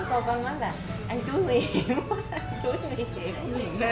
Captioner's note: laugh